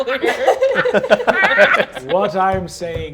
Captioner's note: laughs; laughter